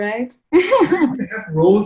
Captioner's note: laughs